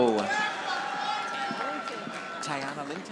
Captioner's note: audience applauding